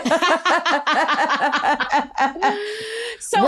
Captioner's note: laughter